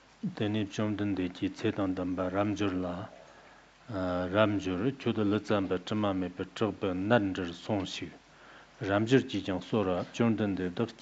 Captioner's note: giving oral transmission in Tibetan